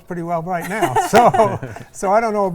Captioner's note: all laugh